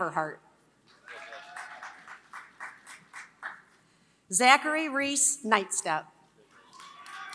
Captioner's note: applause; applause